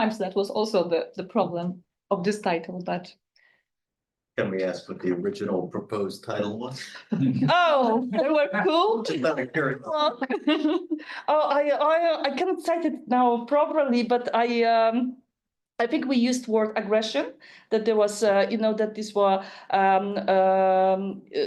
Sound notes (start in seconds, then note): 9.4 group chattering